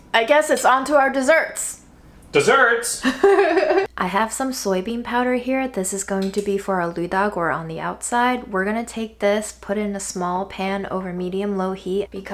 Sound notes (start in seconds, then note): 3.0 laughing